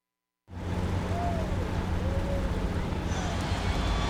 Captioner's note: vehicles rumbling